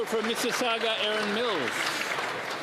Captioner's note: applause